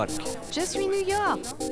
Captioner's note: French